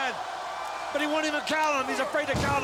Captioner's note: crowd cheers